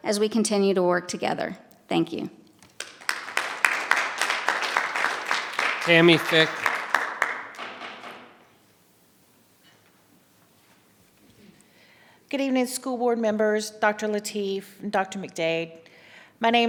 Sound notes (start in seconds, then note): 2.8 audience applause; 6.8 audience applause continues; 6.8 gavel pounding